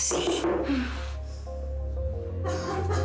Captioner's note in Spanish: Toques en la puerta